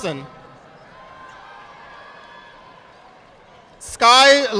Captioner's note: audience applauding